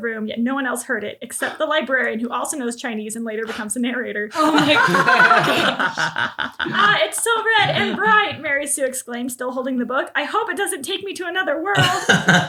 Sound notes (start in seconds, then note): 4.3 laughter; 11.7 laughter